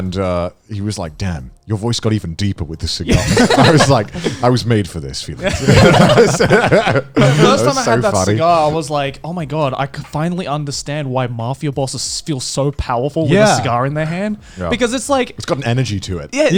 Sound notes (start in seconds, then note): 3.1 laughing; 5.4 all laughing